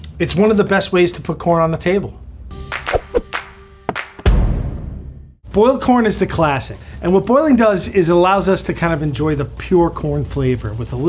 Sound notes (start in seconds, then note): 2.5 bright music; 3.8 hands clapping